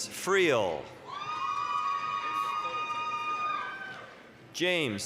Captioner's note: applause, cheering